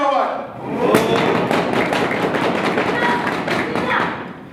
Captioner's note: animals cheer